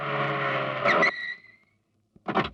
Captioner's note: brakes squeal